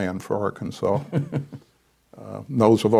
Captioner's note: chuckles